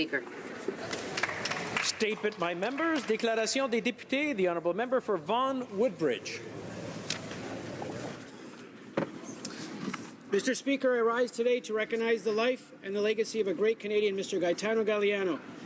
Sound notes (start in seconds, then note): 7.8 speaking French